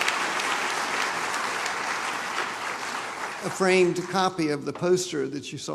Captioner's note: applause